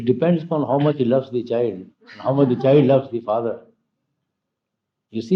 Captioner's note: laughter